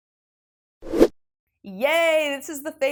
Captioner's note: graphic whooshes